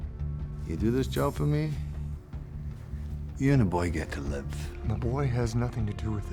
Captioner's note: scottish accent